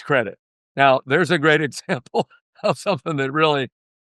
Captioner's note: laughter